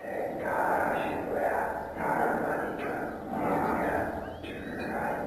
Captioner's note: mysterious whisper chanting